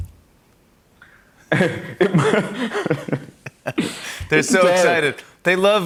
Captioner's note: laughing